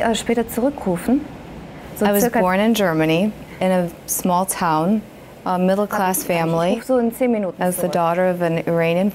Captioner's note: speaks german